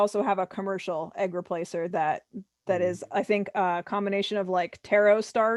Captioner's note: laughs